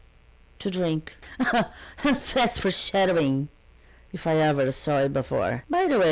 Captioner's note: bitter laugh